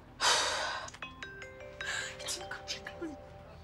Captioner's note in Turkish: Telefon Çalıyor